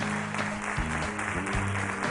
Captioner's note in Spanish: Aplausos